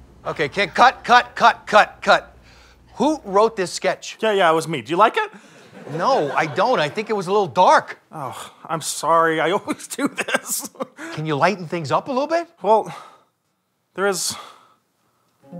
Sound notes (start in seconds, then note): 8.3 sigh; 9.6 laughing